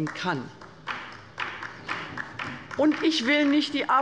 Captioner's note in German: Beifall